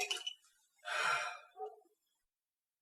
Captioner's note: sighs